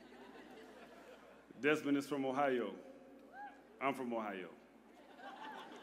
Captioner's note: laughter